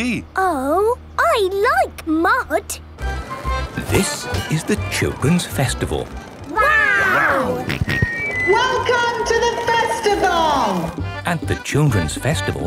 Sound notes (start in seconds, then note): 7.7 on microphone; 9.9 jolly folk music